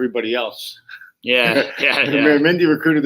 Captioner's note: chuckle